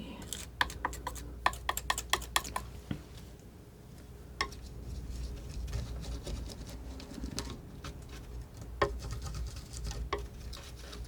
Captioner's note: tapping